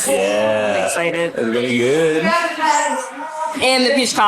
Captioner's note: background chatter